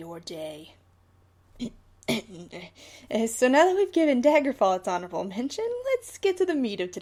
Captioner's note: ahem